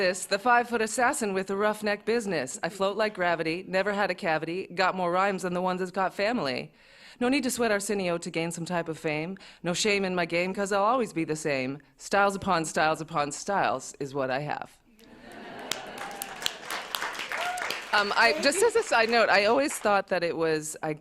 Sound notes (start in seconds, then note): 15.0 laughter; 15.2 applause